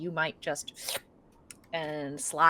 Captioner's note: mimics slurping